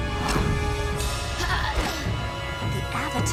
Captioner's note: grunting